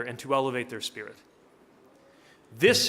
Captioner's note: none